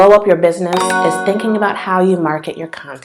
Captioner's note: bell sound